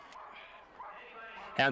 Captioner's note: cheering